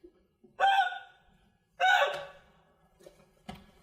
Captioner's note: crying